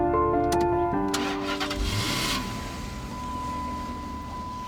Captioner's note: ignition turning on; beeping